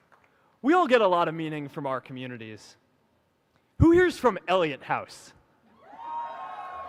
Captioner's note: applause